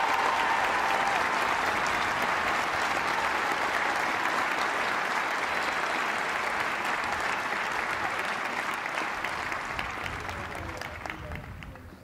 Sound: cheers and applause

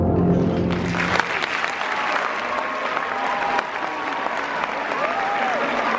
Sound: applause

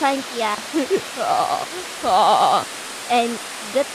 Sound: laughs

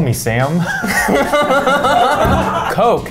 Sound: laughs

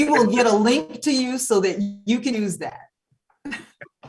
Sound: laughs

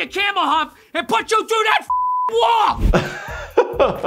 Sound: beep; laughs

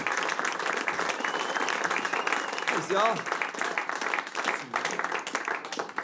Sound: applause

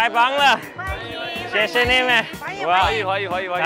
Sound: speaks mandarin

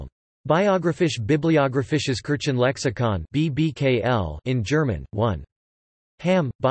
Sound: in German

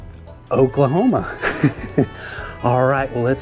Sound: chuckles

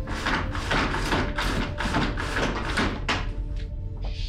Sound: blind lowers

